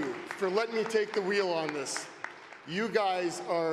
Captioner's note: cheering and Applause